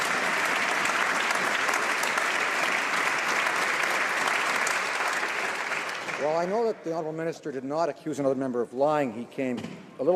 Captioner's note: some Applause